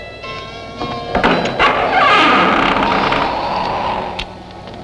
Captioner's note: door creaking